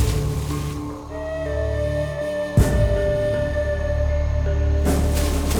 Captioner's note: rumaging through foliage